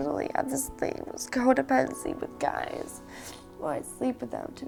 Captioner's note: sniffles